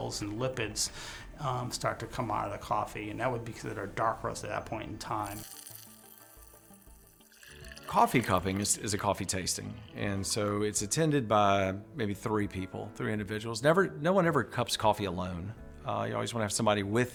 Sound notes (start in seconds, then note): 5.2 beans rattle